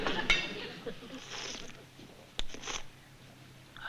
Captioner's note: slurping